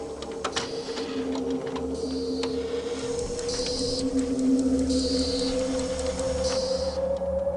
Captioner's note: mechanical clanking, hissing of emissions